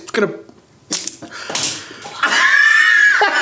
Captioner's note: egg splats; laughing